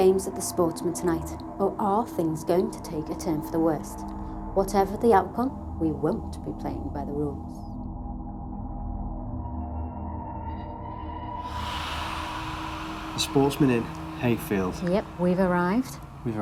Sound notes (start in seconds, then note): 10.8 eerie high pitched vibration